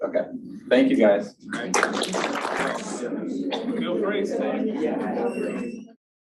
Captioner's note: applause from audience